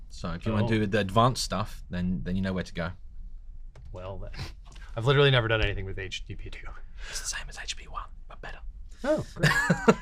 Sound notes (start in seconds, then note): 7.1 whispering; 9.4 chuckling